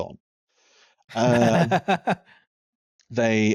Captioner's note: laughs